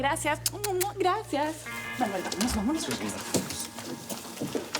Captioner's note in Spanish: Sonido al tirar besos